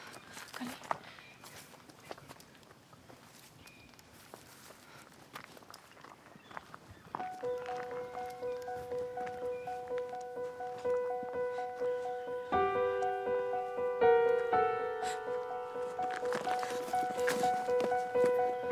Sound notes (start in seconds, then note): 7.2 intense piano music; 14.7 Sua sighs